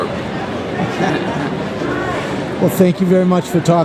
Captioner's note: laughs